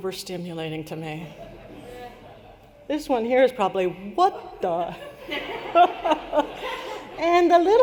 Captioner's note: laughter